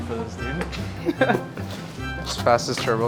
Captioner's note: laughs